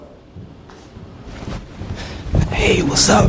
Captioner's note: footsteps clomp